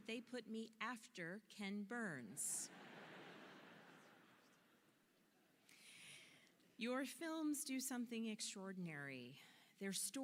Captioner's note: laughter